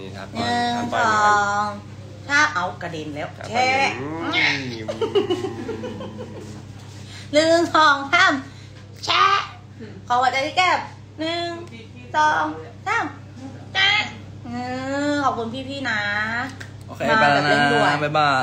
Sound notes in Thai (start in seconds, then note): 4.2 เสียงหัวเราะ